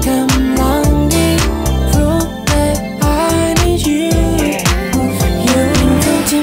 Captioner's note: ooh, ooh